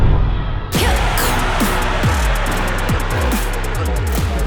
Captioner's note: crowd roars